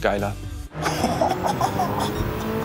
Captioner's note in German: Lachen